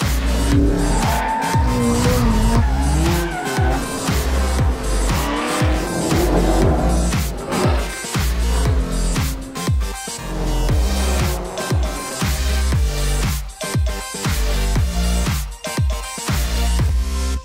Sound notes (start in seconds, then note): 1.1 brakes squeal; 2.2 engines growl